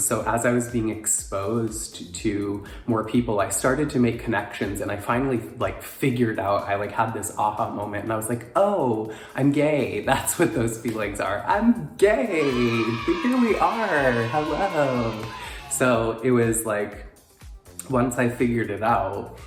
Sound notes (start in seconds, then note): 12.3 crowd cheering